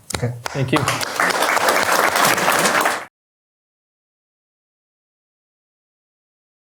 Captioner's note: applause